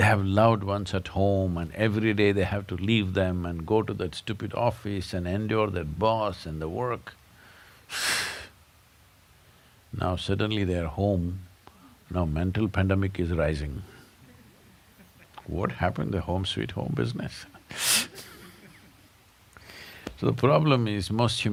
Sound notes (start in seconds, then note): 18.0 laughter